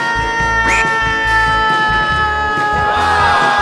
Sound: it's a breath-taking cry

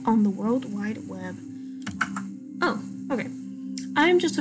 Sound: breathes in

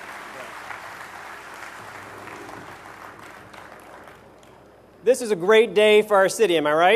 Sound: applause

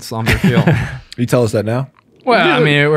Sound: all laugh

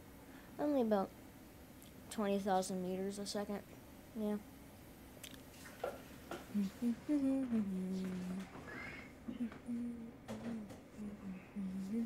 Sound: crackling noise

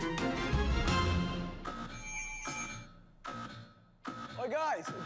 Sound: alarm buzzes

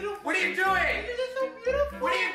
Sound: shouting

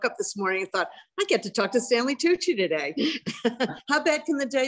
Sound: laughs

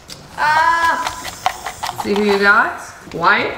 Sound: shouts

